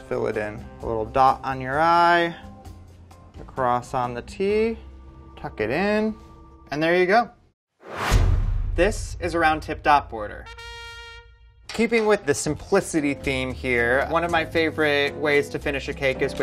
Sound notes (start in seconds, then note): 7.8 whooshing; 10.4 trumpet blares